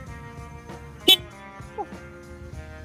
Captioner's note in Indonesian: klakson